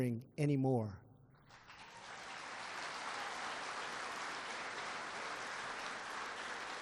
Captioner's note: applause